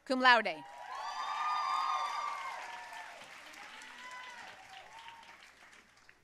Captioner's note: audience cheering and applauding